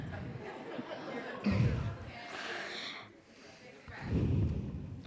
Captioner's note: group laughs